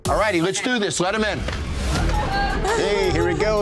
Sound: laughter

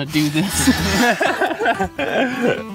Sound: laughter

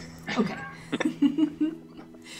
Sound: cast giggles

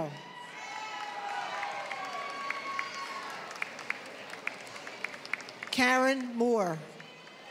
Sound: applause

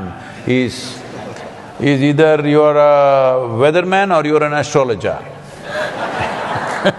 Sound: laughter/Applause

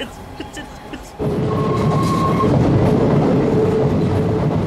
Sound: subway rumbles

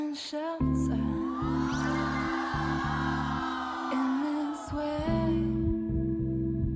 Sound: whispering

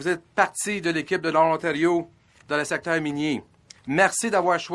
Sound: speaking French

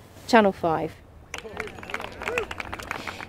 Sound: applause

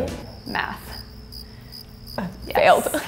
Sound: crickets chirping

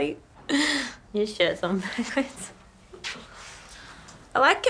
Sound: laughs

